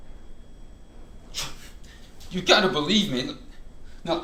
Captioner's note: huffs